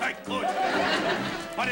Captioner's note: laughter